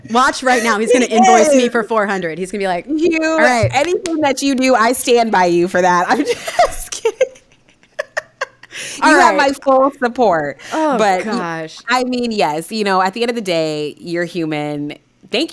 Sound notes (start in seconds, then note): 6.1 laughing